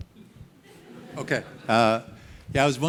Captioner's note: audience laughing